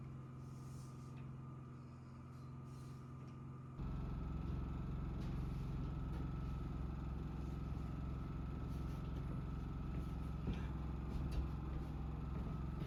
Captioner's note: footsteps